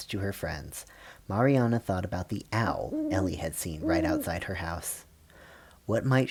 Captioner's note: owl hoots